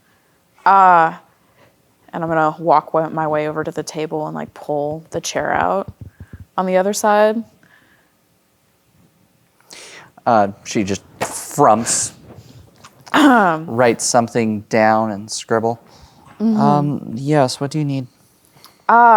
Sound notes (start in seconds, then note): 13.0 clears throat